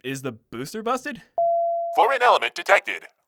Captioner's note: ping